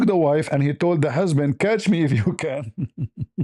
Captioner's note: ketawa